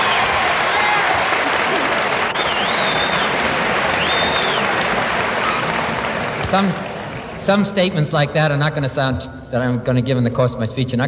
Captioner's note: laughter; applause